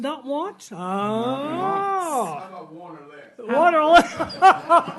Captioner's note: laughing